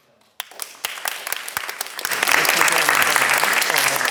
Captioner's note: class clapping